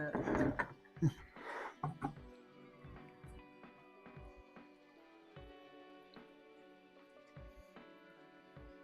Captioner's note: laughs